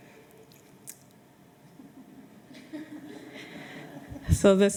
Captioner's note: laughter